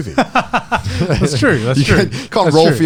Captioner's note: laughs